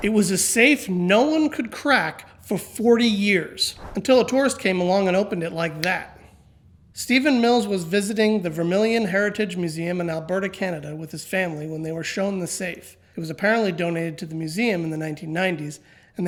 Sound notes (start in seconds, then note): 5.7 snaps